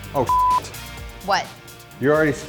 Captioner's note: beep